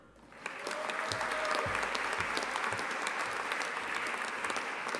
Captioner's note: audience applauding